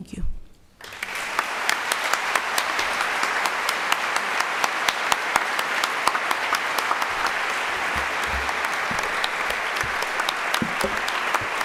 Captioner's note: applause